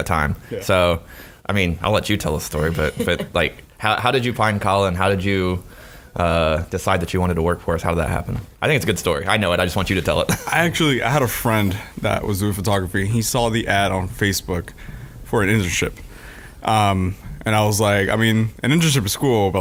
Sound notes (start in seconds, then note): 10.1 laughing